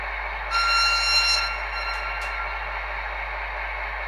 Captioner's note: long signal